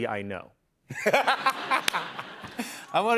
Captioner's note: laughter